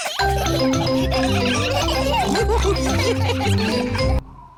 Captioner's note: all laughing